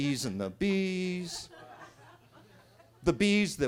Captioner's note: attendees laughing